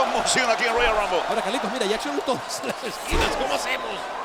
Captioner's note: laugh